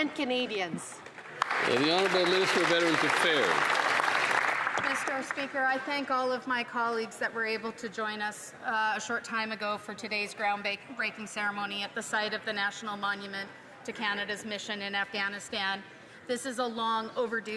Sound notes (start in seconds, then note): 6.4 some Applause